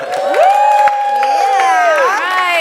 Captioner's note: laughs; audience cheers and claps